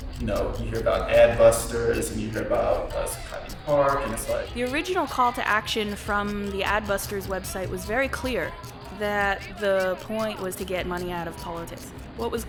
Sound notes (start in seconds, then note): 4.9 voiceover